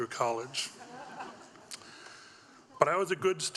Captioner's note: audience laughing